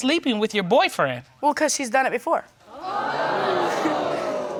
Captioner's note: audience exclaiming